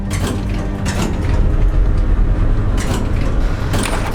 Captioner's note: door clangs